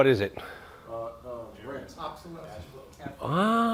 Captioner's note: audience murmuring